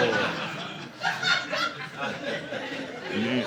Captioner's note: audience laughing